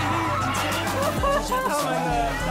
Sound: laughing

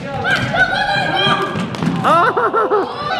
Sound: shouting

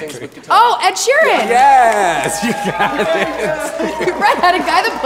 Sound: laughs

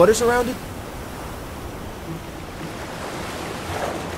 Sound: water splashing

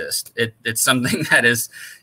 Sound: laughter

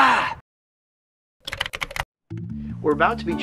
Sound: typing

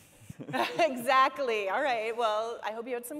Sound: chuckles

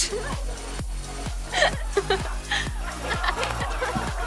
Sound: laughing

